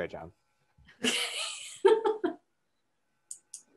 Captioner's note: laughs